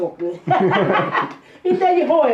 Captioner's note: chuckles